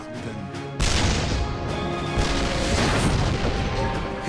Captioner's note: tank firing